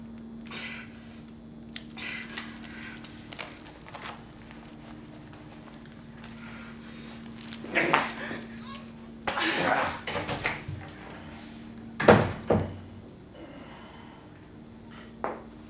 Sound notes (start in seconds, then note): 7.6 grunting